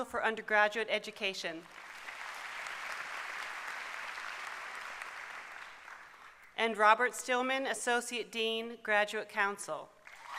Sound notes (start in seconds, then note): 3.2 applause